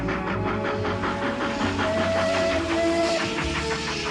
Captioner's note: train whistle blows